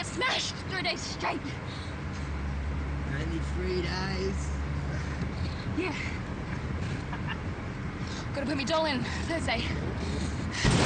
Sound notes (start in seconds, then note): 7.0 Jenko laughs